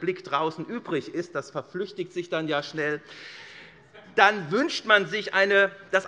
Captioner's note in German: Heiterkeit SPD